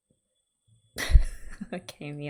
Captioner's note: laughs